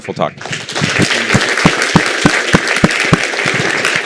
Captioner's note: applause